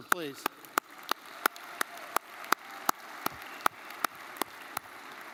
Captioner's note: crowd applauding